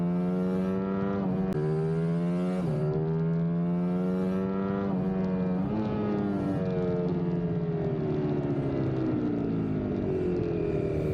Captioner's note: engine roaring